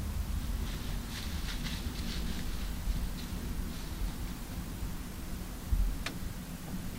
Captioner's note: rustle rustle…